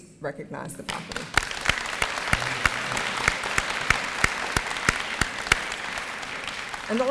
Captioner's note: applause and cheering